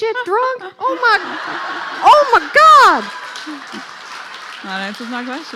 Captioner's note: laughing